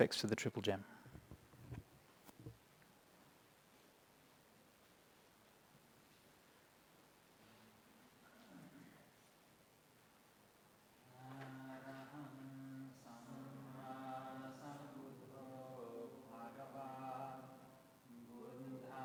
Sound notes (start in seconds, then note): 7.3 chanting